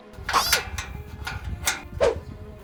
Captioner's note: open the door sound